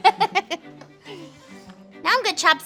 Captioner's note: laughing